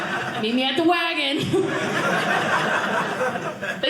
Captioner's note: audience laughing